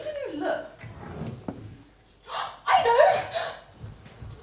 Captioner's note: gasp